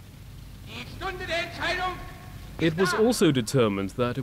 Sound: speaking in a foreign language

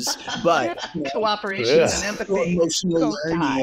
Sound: laughs

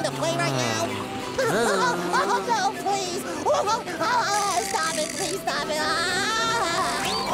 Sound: laughing

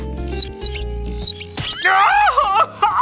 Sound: weather vale squeaking; owl shouting

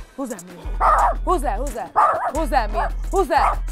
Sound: dog barking

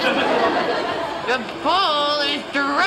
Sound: audience laughing

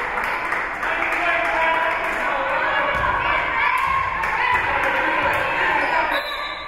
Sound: spectators cheering and applauding; spectators shouting encouragements; whistle being blown

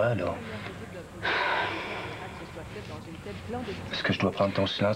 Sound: Elle soupire

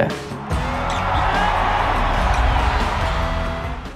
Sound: audience cheer

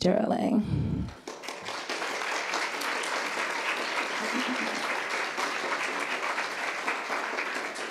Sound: applauds

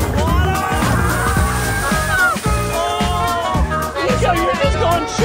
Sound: all shouting

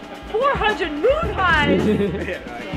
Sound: people laughing

